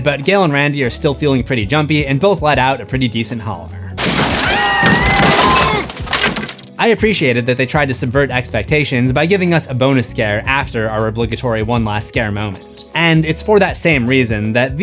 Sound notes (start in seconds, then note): 4.3 screams